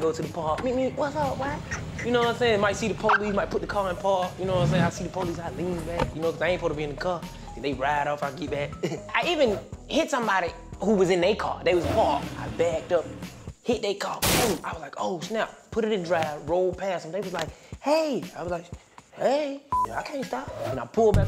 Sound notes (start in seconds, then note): 14.2 car crash noise; 19.7 beep